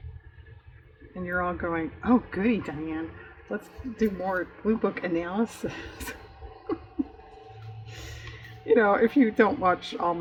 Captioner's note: laughs